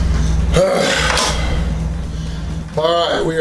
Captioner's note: grunts